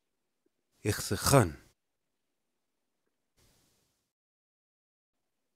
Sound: speaking in indigenous language

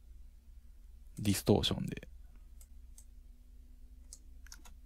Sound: distortion

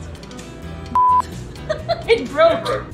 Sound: short beep; laughing

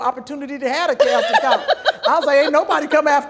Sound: laughter drowns out Kym

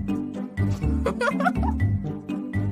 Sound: girls Laughing

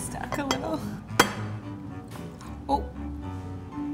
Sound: bowl clinking and cake glooping

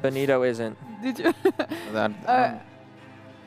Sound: laughs

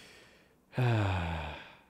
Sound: sigh

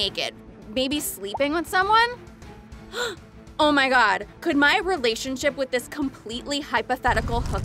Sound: gasp

